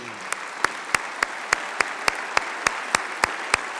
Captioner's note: applause